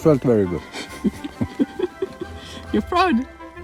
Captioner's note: both chuckling